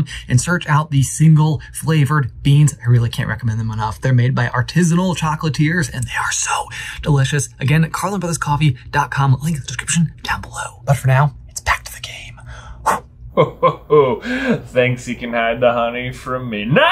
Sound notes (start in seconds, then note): 12.9 air whooshing; 13.3 chuckles